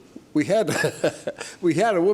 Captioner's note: laughs